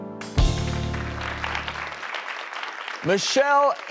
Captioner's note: audience applauds